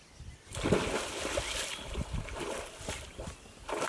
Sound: water splashes

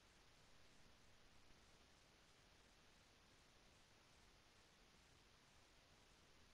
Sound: none

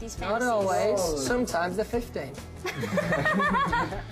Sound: laughter

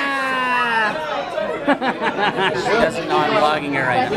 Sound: laughs

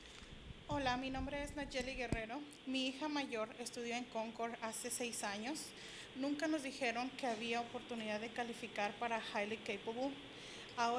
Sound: Spanish language

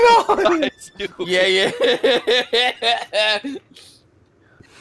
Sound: laughter

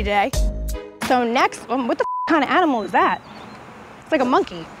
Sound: computer bleeps

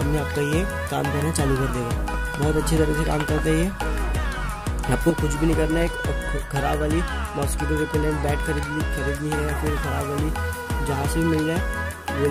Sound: soldering out capacitor

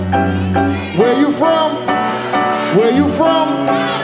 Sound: audience shouting

